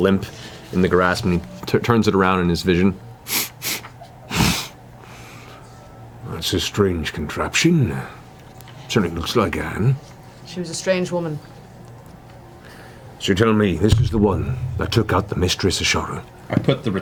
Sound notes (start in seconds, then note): 3.3 sniffs